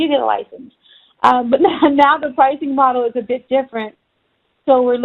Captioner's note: chuckling